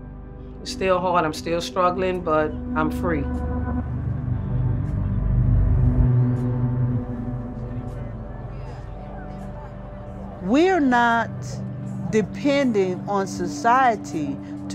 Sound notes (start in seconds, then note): 7.6 indistinct chatter